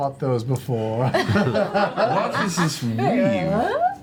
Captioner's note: laughter